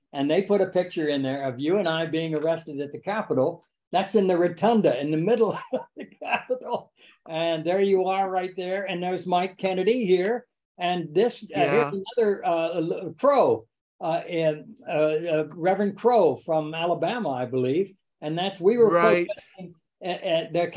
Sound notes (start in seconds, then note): 5.6 laughs